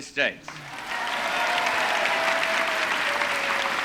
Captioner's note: cheering and applause